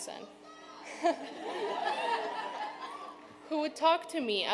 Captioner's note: audience laughing